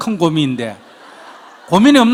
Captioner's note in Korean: 청중 웃음